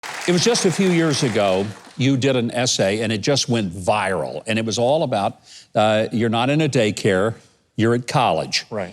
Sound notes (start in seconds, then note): 0.0 audience applause